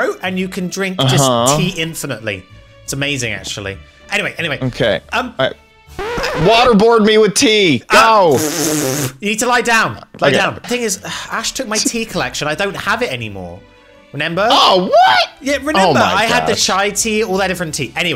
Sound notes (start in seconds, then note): 5.9 record scratch; 8.1 laughing